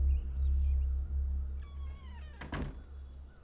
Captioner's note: door creaking